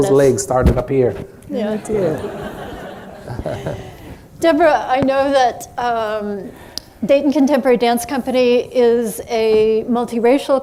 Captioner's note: laughter